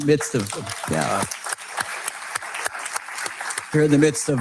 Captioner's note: audience clapping